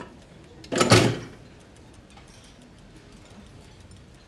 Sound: loud clank; ticking

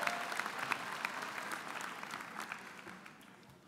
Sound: applause

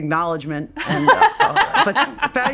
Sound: laughing

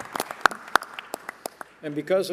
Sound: applause

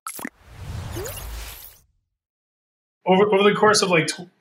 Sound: logo swooshing

